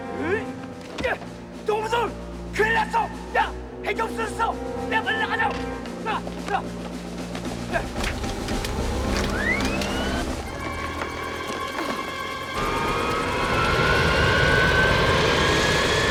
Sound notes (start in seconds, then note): 0.8 Korean; 8.0 engine Starting